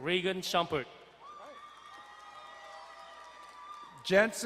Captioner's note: crowd cheering and applauding